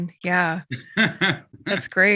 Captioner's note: laughs